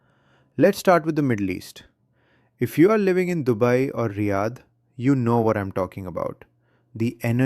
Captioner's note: none